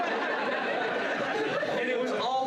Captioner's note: laughter